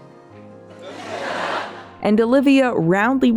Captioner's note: audience laughter